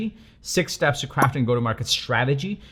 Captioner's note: pop